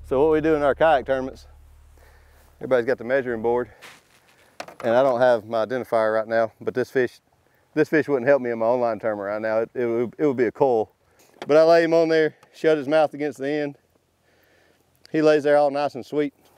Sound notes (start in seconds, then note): none